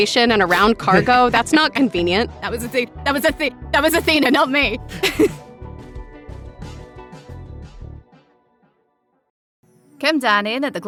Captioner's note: laughs